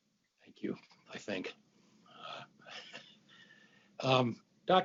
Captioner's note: laughs